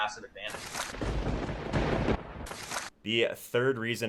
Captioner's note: lightning striking